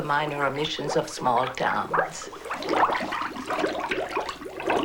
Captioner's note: gurgling of bubbles